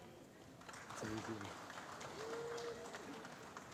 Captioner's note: applause